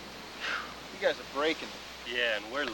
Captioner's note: sighs